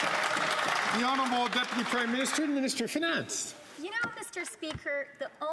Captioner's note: some Applause